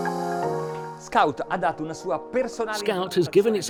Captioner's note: speaking in foreign language